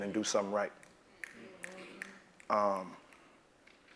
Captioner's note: applause